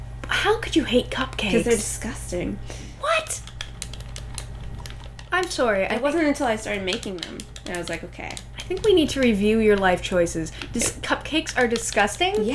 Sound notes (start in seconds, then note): none